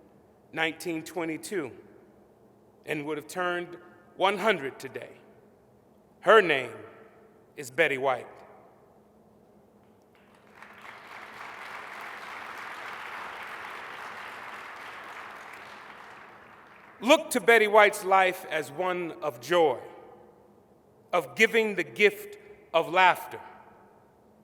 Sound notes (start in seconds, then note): 8.5 applause